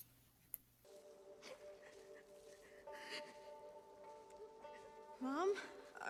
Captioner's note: sobbing